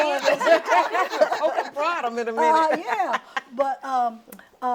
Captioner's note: all laughing